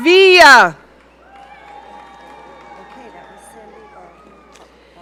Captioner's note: audience cheering